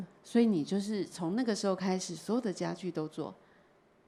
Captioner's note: Mandarin